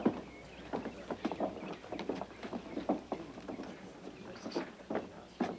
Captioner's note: congregation murmuring